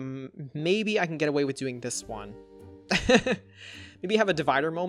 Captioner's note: laughs